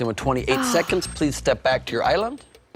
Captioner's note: sighs